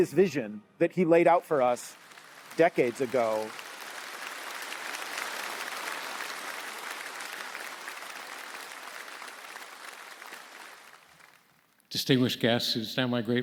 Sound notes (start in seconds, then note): 2.5 audience clapping